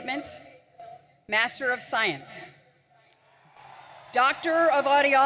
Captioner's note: audience cheering